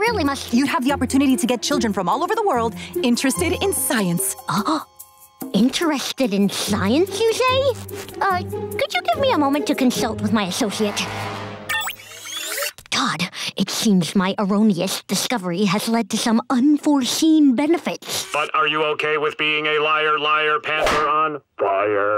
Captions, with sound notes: You'd have the opportunity to get children from all over the world interested in science. [gasping] Interested in science, you say? Uh, could you give me a moment to consult with my associate? [whispering] Todd, it seems my erroneous discovery has lead to some unforeseen benefits. But are you okay with being a liar, liar pants on fire?